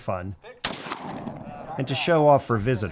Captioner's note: gunshot sounding